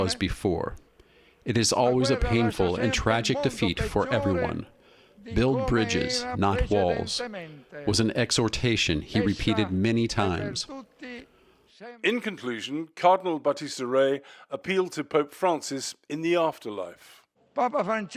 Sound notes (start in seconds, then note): 12.4 voice-over